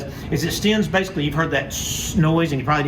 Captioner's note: hissing